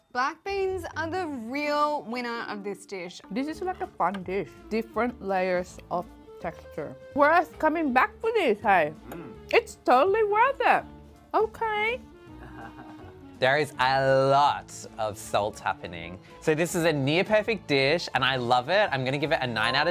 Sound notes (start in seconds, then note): 12.3 laughing in background